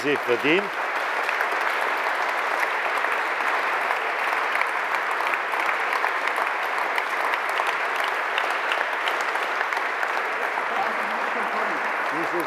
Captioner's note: Continued applause from the CDU and the Alliance 90/The Greens